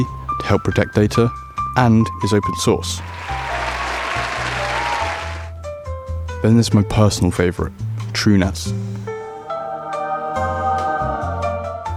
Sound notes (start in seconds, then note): 2.9 applause; 9.4 angelic singing